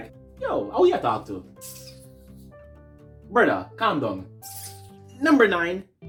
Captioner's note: hisses teeth